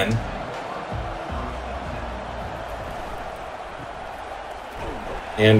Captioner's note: crowd cheering